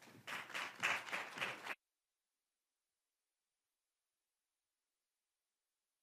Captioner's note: applause